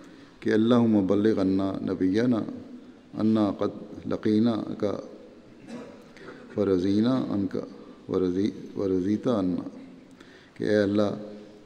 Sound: Arabic

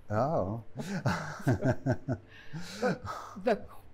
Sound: laughter

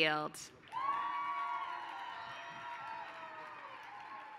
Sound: applause

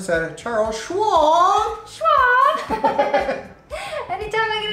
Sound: laughs

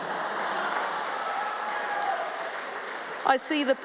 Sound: cheering, applause

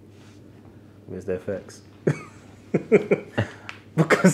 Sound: laughs

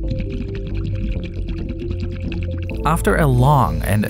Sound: water burbling

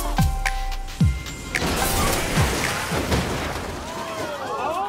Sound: crashing continues; crowd exclaiming

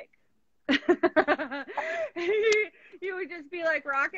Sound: laughing

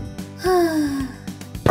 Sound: sigh

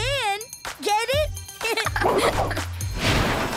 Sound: giggling

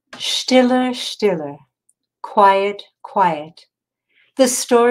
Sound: speaking in foreign language

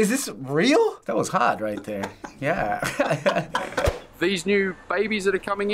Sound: both laugh

